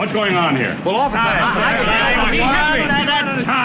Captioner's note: everyone talking